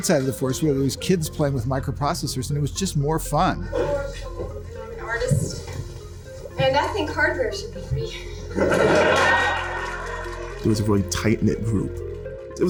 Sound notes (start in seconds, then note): 8.6 audience laughing and clapping